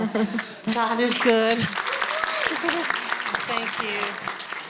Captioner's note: crowd applauds